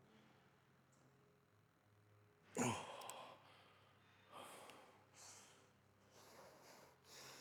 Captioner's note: grunts